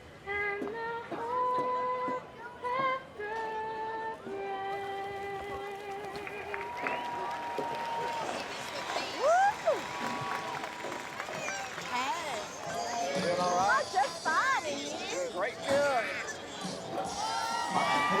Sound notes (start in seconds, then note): 6.7 crowd applauds and cheers; 9.4 cheers; 16.5 crowd cheering